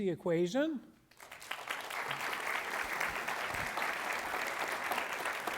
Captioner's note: applause